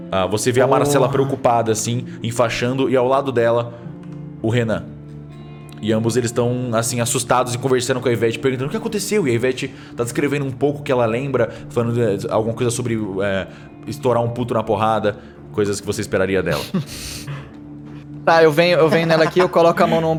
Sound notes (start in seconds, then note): 16.5 laughter